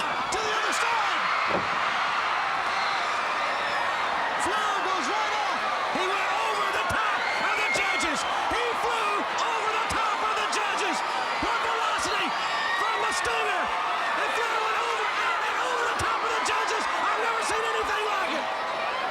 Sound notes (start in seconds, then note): 1.4 crowd cheering; 18.9 crowd cheering